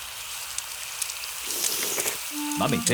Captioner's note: all slurp